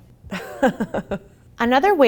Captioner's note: laughs